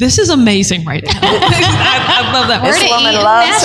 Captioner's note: laughter